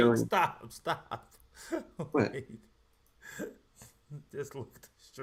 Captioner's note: laughs